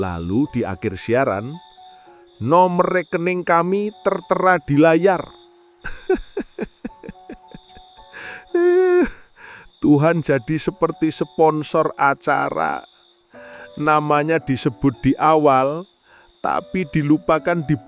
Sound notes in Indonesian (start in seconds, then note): 5.8 tertawa